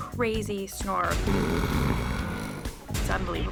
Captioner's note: man snoring